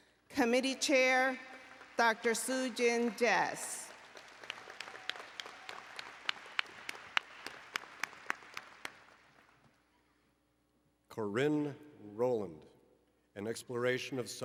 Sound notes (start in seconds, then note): 4.2 applause and Cheering